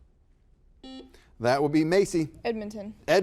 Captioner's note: buzzer buzzes